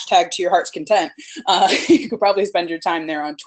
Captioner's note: laughs